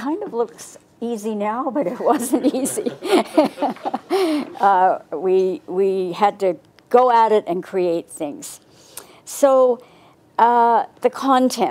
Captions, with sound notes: It kind of looks easy now, but it wasn't easy. (group laughs) We had to go at it and create things. So, the content.